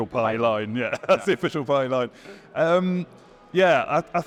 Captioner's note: laughs